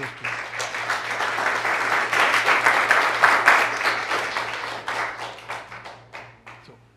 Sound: applause

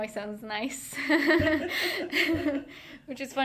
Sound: both laughing

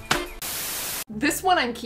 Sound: static

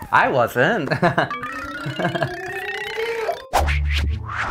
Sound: giggles; meter ringing; upbeat music

